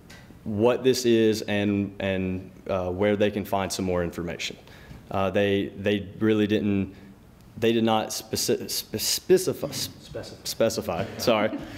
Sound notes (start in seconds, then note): 7.5 stutter